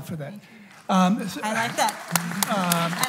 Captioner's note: applause